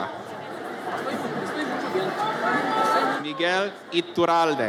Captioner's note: audience chatters